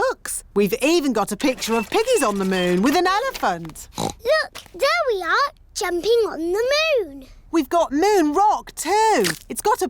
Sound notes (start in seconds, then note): 3.9 oinks